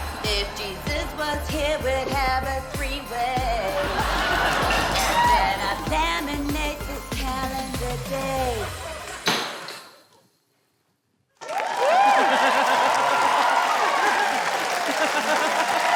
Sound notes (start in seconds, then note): 9.2 thud!; 11.4 cheering, applause